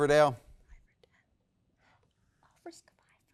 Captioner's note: contestants whispering